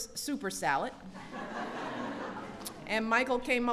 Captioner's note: laughter